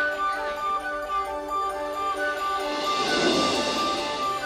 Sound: bread roll whooshing

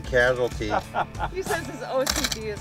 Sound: laughter

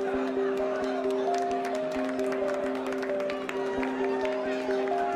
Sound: clapping

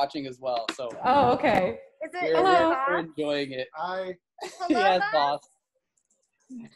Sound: laughter

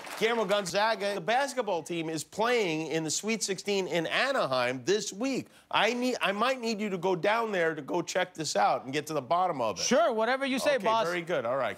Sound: applause

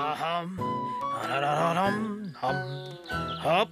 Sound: humming

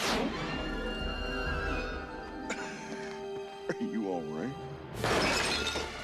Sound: chuckles

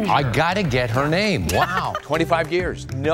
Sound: giggles

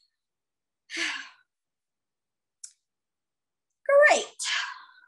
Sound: sighs

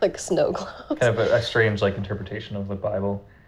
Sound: laughing

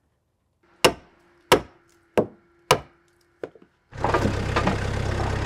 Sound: hammer clanking; machine rumbles

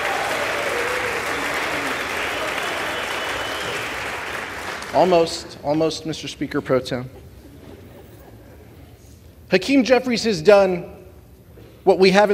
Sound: applause

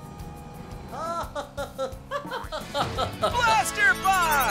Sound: laughing

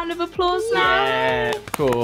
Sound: clapping

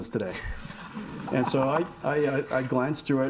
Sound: audience laughing

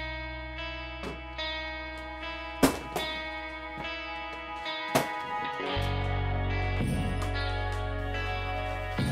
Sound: wood crackles and snaps

